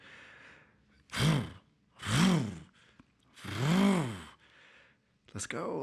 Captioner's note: imitates engine revving